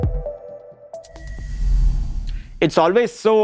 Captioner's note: air whooshes